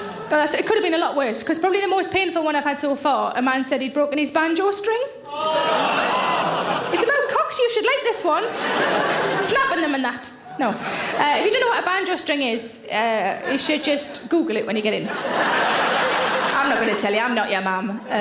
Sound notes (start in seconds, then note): 5.4 audience laughs; 15.0 audience laughs